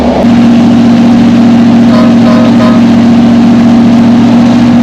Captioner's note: honking horn